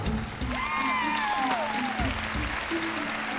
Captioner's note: cheering and applause